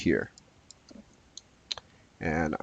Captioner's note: mouse clicking